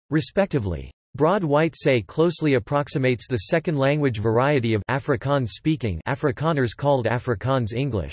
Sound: afrikaans-speaking

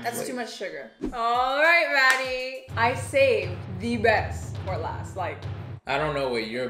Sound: claps

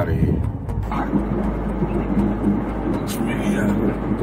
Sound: car noise

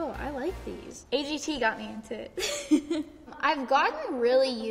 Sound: laughs

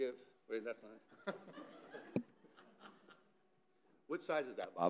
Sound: woman laughing

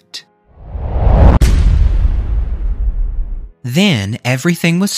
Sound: loud bang

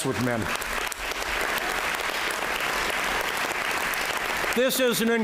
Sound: applause

